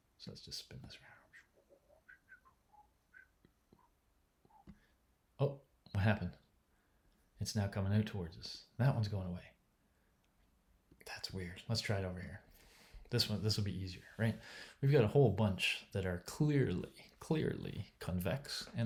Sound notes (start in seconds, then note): 1.8 whistling